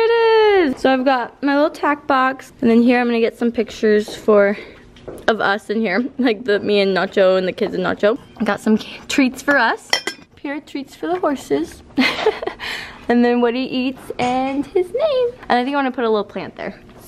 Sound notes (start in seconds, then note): 12.0 laughs